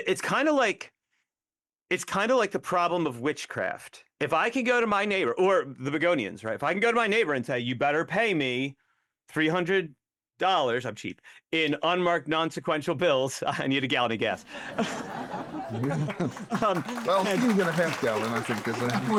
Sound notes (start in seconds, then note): 14.4 audience Laughing